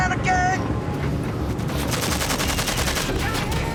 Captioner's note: artillery fire